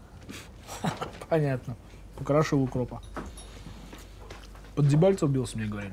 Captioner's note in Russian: смеётся